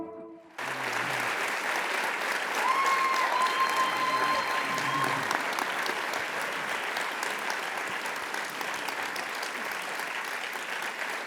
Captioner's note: applause